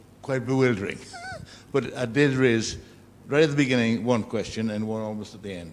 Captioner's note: laugh